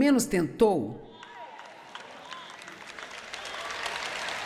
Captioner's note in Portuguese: plateia aplaudindo